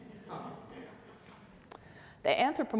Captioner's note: audience laughs